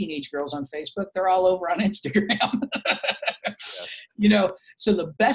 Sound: laughs

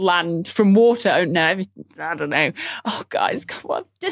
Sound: stammers

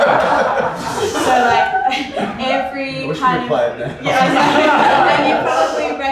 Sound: laughs

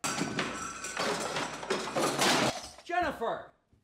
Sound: clattering

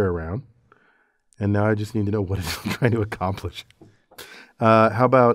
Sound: laugh

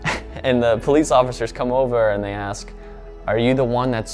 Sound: laughs

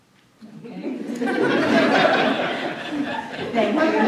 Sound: laughing

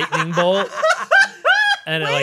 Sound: laughing

